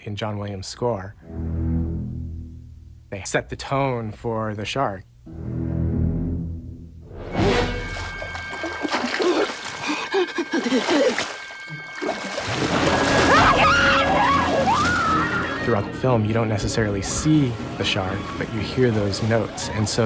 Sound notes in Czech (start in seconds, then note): 7.6 dramatická hudba; 9.8 žena lapala po dechu; 13.1 žena křičela